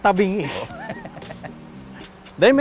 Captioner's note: laughs